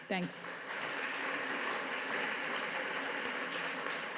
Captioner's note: audience applauding